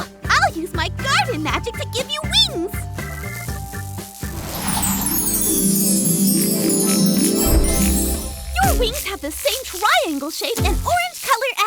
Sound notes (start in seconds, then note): 3.3 magical sounds